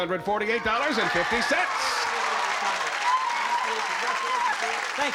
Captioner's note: applause